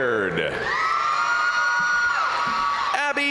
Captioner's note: crowd cheering; crowd applauding